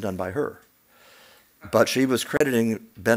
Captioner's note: none